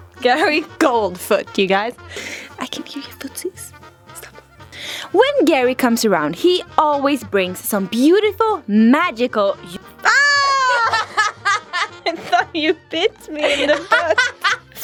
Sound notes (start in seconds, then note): 10.0 screaming